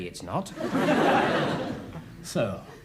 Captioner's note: audience laughs